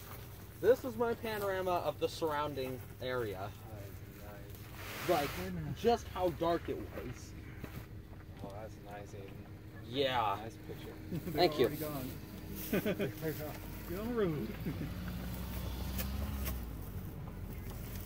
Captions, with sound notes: This is my panorama of the surrounding area. That is nice. Like, just how dark it was. Oh, that's nice, Aidan. Nice picture. --Yeah, Thank you. They're already gone. They're gone. On route. [Car leaving]